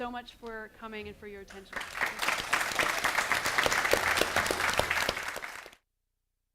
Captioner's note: applause